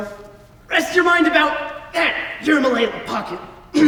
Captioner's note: coughs hoarsley